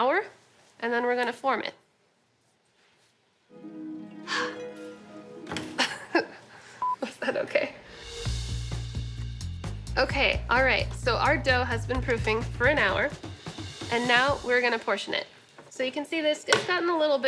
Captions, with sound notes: And then we're going to form it. [harp music] [laughs] Was that OK? OK, all right. So our dough has been proofing for an hour, and now we're going to portion it. So you can see this-- it's gotten a little bit of poof.